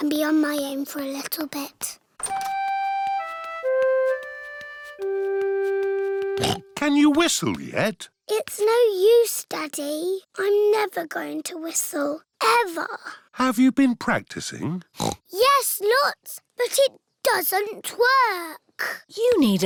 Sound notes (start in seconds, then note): 6.3 snorts; 14.9 snorts